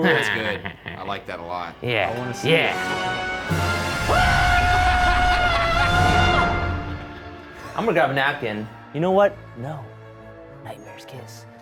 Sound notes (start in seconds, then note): 2.8 tense music; 3.9 screaming; 4.6 laughing